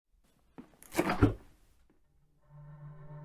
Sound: refrigerator door opens

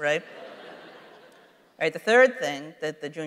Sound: laughter

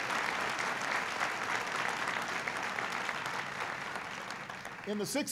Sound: applause

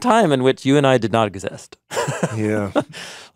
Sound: laughs

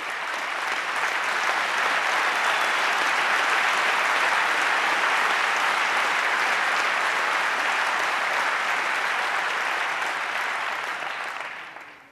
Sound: applause

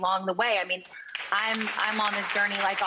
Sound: audience claps

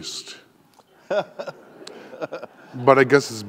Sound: audience laughing

